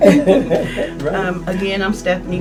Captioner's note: all laugh